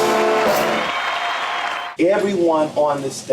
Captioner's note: crowd cheering